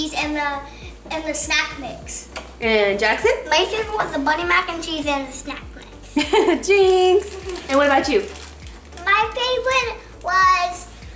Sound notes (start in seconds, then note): 6.0 chuckles